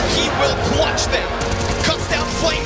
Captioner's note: gun firing